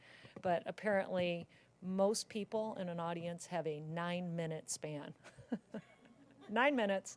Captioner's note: laugh